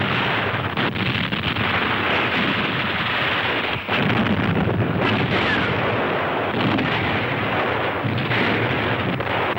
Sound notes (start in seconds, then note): 4.5 canons thundering